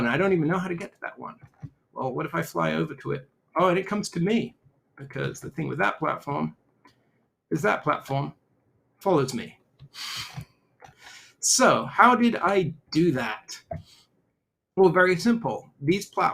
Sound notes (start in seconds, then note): 9.9 chuckles